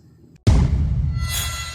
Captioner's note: thump; sharp bell ring